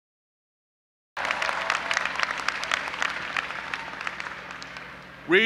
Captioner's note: audience applauding